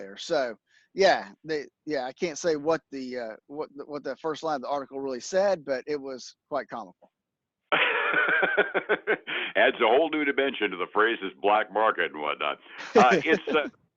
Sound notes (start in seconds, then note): 7.7 laughs; 12.7 laughs